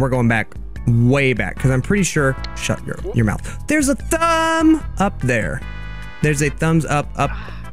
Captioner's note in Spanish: jadeó